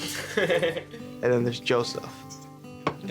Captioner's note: laughs